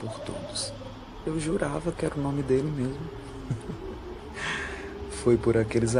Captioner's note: laughing